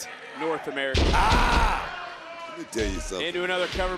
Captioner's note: Santino thudding